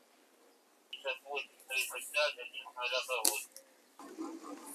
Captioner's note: radio